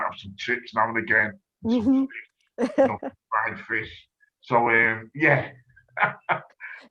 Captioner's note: laughs